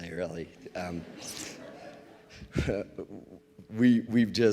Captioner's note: audience laughs